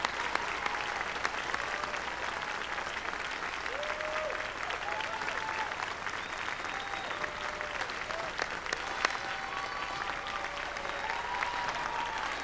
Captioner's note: cheers and applause